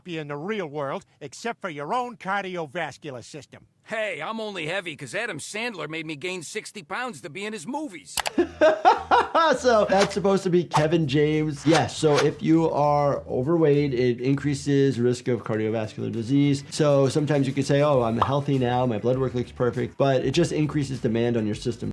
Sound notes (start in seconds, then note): 8.2 laughs